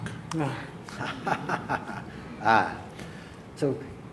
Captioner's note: laughs